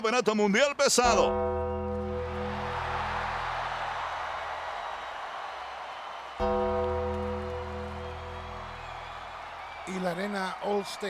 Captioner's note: applause